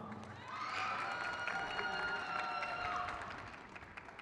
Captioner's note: crowd cheers